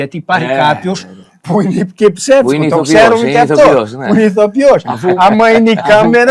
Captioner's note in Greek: γέλια